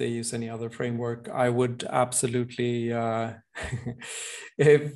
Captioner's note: chuckles